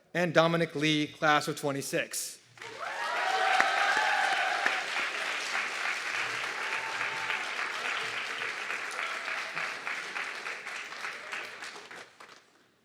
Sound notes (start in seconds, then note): 2.9 audience clapping and cheering